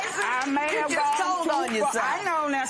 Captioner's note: laughing